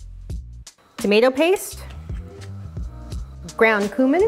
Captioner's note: scratching